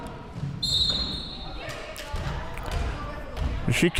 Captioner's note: whistle chirping